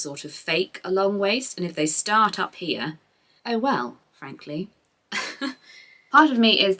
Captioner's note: laughs